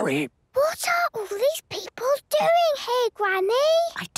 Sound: whispering; quietly

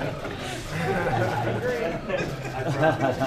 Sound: laughter; laughs

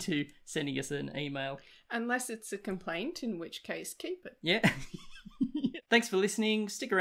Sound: laughs

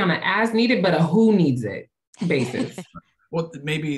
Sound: laughter

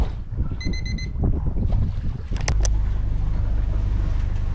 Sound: calm waves flowing; alarm ringing

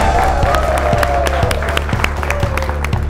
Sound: crashing sound

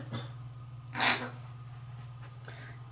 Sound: coughing; sort of beak grinding

